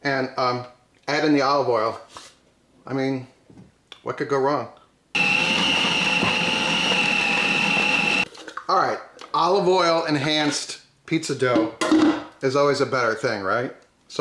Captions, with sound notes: and add in the olive oil. I mean, what could go wrong? (machine whirring) All right, olive oil enhanced pizza dough, is always a better thing, right?